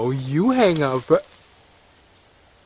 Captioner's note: click